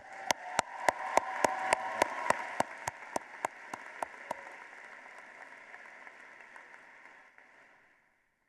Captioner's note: applause